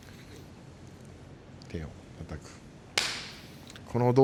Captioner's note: clapping